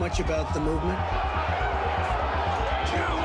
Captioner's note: crowd yelling